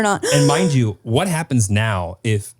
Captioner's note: gasps